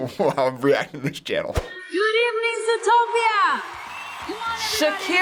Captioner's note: chuckles